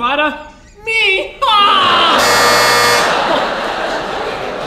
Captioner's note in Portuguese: campainha